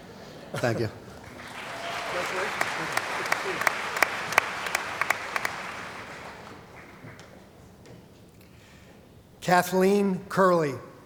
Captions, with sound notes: Thank you. >> Congratulations. [ Applause ] >> Kathleen Curley.